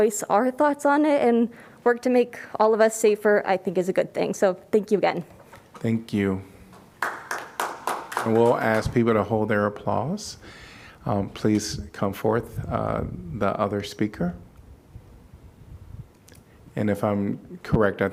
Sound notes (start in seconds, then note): 6.9 applause